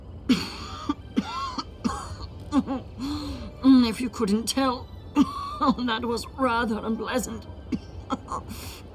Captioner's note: coughs